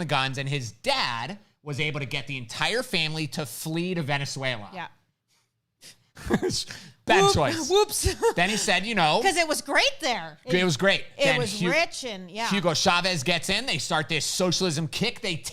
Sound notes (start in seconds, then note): 6.2 chuckles